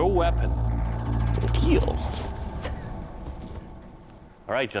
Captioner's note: whispering